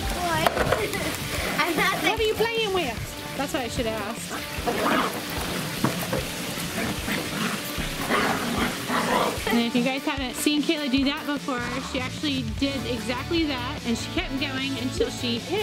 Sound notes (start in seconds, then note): 0.9 laughing; 3.9 scrape; 6.6 dogs growling